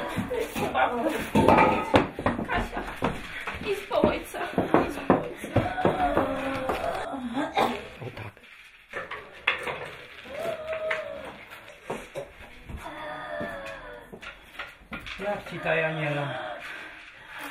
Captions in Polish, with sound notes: Idź po babkę. Kasia, idź po ojca. [ciężki oddech] Jak ci ta, Janiela?